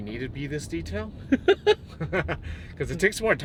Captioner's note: laughing